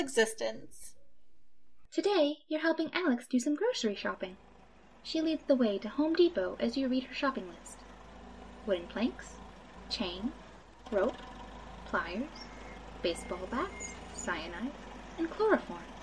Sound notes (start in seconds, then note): 3.3 Forklifts, Saws, Hammering, sawing in the background; 4.9 Home Depot Ambience Continues